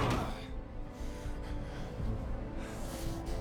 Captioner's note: grunts; both breathing heavily